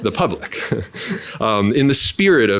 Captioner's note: laughing